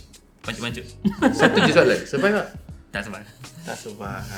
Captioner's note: laughing